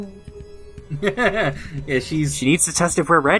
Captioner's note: laughs